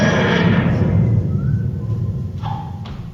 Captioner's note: whistling